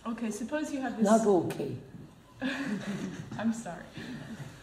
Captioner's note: laughs